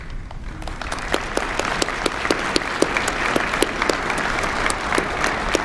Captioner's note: applause